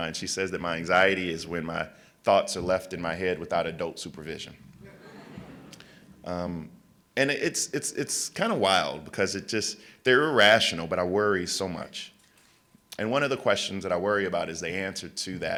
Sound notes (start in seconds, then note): 4.8 laughter